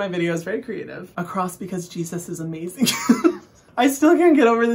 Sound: laughing

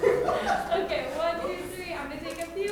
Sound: laughing

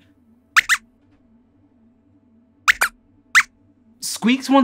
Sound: squeaks squeaks

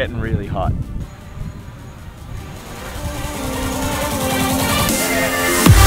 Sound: music intensifying; drones flying

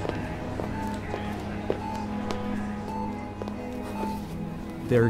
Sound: monitor beeps

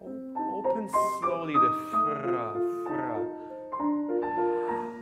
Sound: piano and singing in foreign language; speaking in foreign language; piano and singing in foreign language

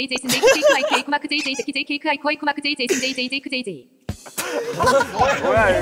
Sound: just laughs

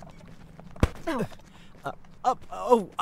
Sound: small grunt

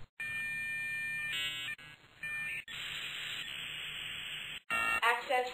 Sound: dial up noise

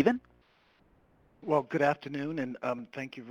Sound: voiceover

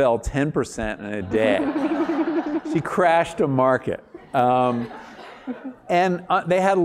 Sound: laugh

